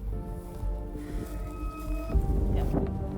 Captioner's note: wind blowing